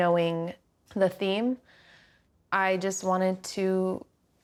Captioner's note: none